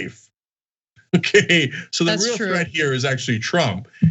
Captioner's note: laugh